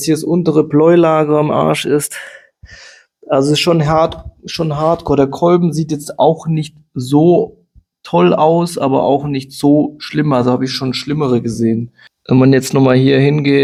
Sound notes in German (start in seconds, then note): 2.1 japst